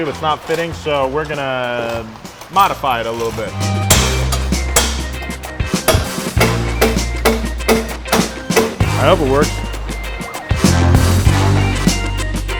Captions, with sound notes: it's not fitting. So, we're gonna modify it a little bit. (hammering) I hope it works. (upbeat music)